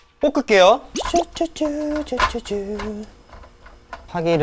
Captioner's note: humming automatically